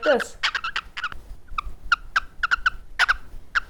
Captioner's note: bird coos